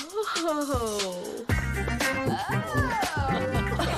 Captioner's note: staff laughing